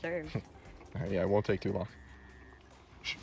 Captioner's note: Rellik laughing